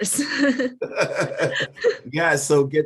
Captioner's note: laughing